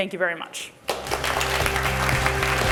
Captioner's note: applause